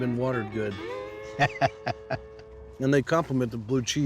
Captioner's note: laughter